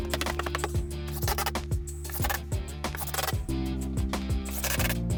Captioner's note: drill whirring